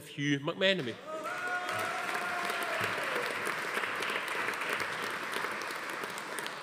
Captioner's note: attendees cheering; audience applauding